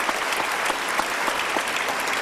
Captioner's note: applause